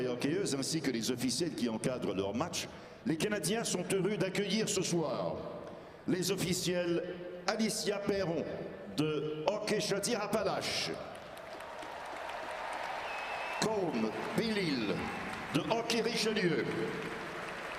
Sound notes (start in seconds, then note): 2.5 speaking French